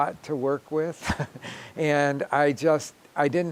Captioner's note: chuckling